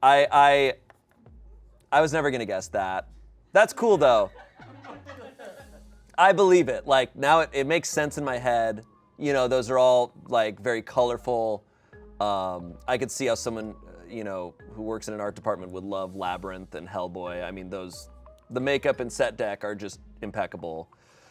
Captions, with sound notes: I was never gonna guess that. That's cool though. (audience laughing) I believe it. Like now, it makes sense in my head. You know, those are all like, very colorful. I could see how someone, you know, who works in an art department would love "Labyrinth" and "Hellboy." I mean, the makeup and set deck are just impeccable.